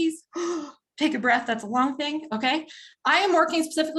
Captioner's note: gasps